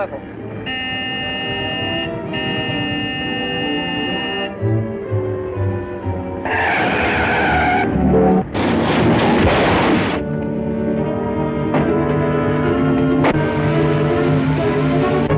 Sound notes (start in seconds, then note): 0.5 honking; 6.2 tires screeching; 8.5 crashing noise; 10.5 suspenseful music